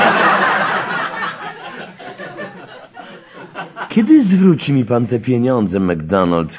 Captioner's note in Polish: śmiech